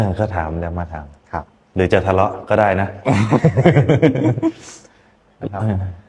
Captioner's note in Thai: เสียงหัวเราะ